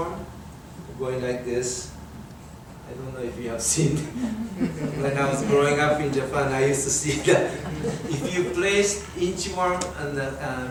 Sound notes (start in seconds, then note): 7.0 everyone laughs